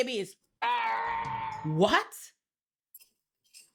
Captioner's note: growling